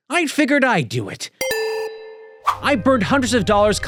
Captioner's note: chiming